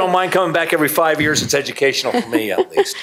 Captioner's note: laughter